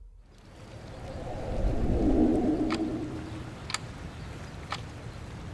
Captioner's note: clock ticking